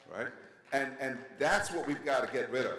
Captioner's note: audience members clapping